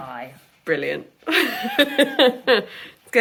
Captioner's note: laughing